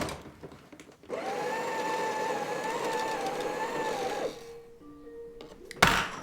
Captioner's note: machine whirring